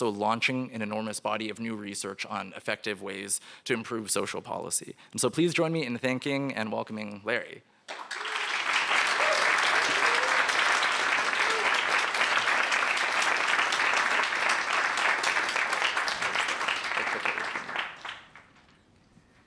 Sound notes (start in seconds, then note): 8.3 applause